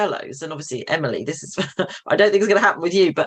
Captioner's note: chuckles